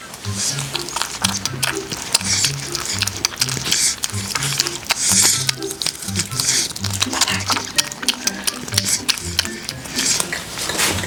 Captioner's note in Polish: Mlaskanie